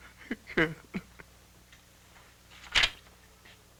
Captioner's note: crying